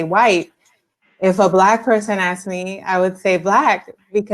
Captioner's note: speaking spanish